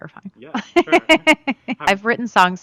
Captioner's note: Laura laughs